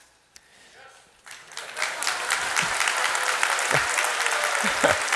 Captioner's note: audience applauding